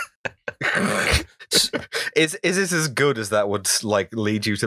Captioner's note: laughter